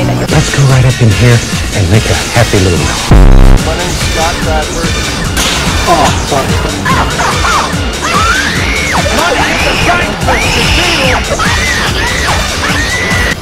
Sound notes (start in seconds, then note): 2.8 distorted sound effect; 9.0 intense childish screams; 11.2 more childish screaming